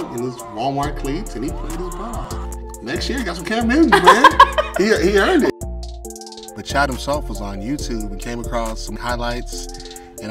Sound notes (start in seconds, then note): 3.8 laughs